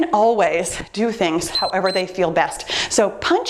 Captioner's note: timer beeps